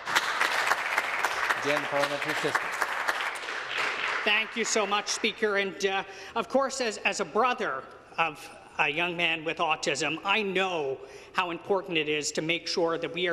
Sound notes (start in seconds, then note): 6.0 some Applause